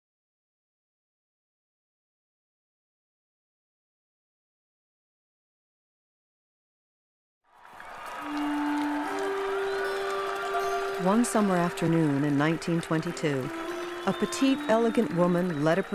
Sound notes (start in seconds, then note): 7.4 applause and cheering